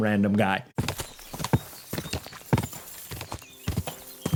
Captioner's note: horse clopping